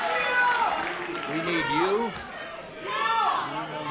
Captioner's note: shouting answers